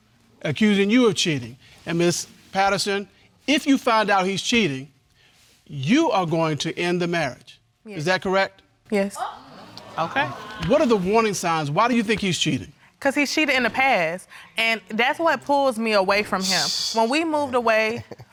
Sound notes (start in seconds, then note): 14.3 scoffs; 16.8 sniggers